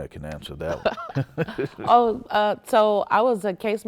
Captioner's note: laughs